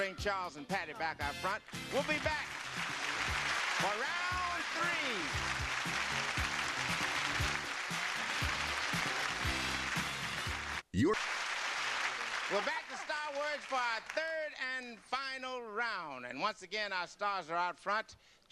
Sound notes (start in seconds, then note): 3.1 audience applause; 6.5 theme music